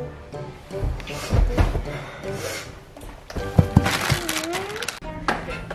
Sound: breathing heavily

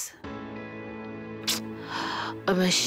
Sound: clicks tongue

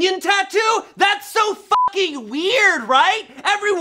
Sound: beep

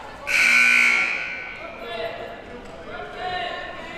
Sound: siren buzzing

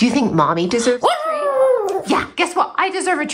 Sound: howling

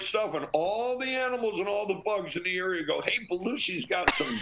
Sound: laughter

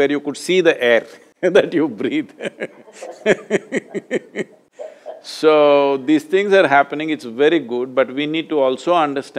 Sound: both laugh

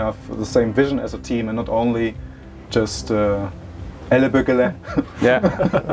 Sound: non-english speech; laughter

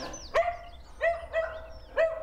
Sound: barking

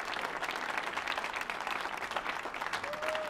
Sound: audience applauding

